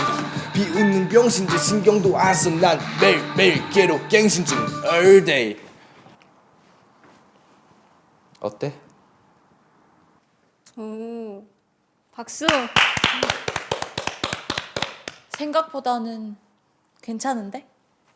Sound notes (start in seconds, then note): 12.4 applause